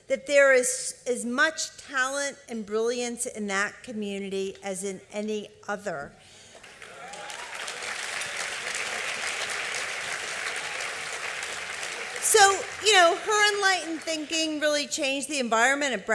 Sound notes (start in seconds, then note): 6.4 applause